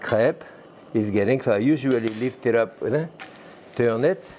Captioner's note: fork clattering